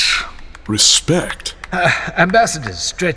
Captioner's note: awkward scattered applause from bystanders